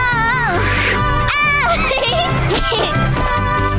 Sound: screaming, laughing

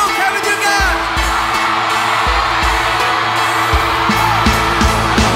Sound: crowd cheers

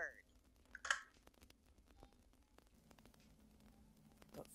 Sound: phone clicks

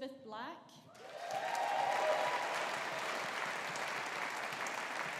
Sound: audience applauding

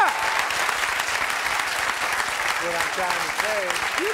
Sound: audience applause

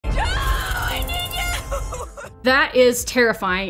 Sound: yelling

